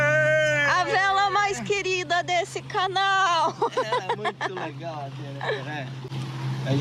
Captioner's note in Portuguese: risadas